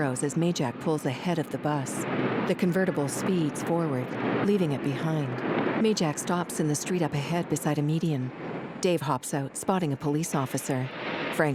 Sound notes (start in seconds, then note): 3.8 engine whirring